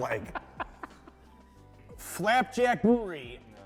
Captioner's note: laughing